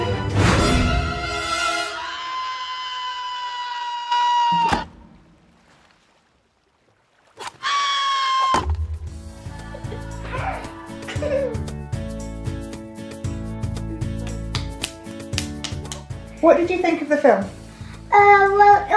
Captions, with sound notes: [Chicken scream] [Chicken scream] What did you think of the film?